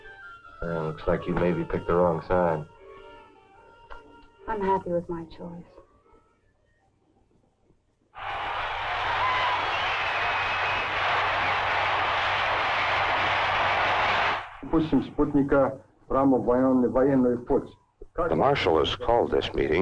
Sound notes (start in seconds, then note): 8.2 crowd cheering and chanting; 14.2 Marshall speaking in Russian